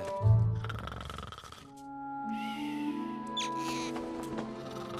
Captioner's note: snoring